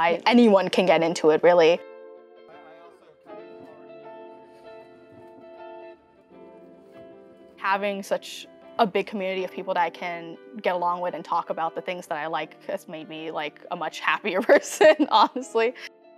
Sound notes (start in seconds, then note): 2.9 students indistinctly chatters; 14.9 laughs